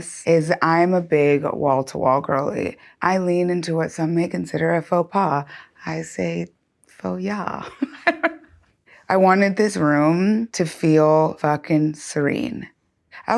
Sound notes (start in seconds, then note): 7.8 laughing